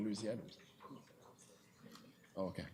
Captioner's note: clerk speaks off mic